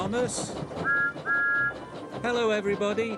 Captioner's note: train whistle blows